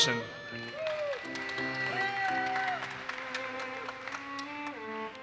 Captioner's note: audience cheers and applauses